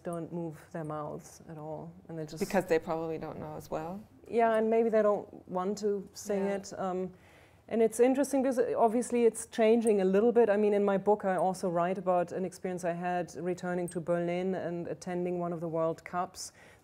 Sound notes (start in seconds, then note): none